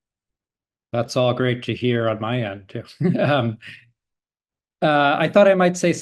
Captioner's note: laughing